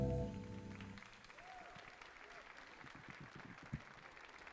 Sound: audience applauding

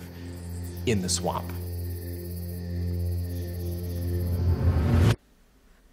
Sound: crickets chirping

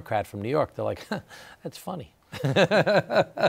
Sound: laughs

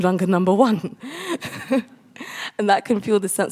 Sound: chuckles

